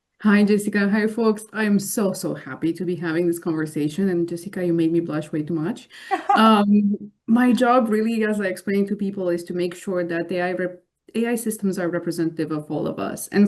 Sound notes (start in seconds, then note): 6.0 laughs